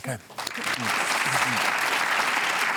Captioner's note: applause